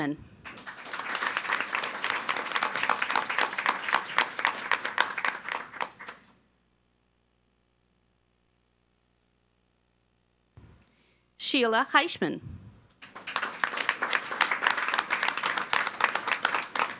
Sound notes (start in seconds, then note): 0.4 all applauding; 13.0 all applauding